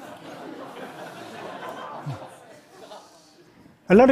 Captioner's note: laughter